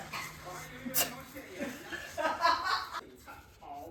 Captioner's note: cracking up at my mom's laugh-choking